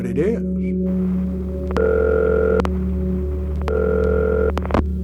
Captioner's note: phone ringing